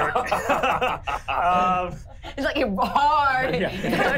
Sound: laughing

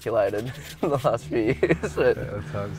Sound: laughs

